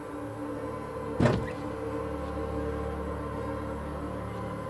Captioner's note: dock rattling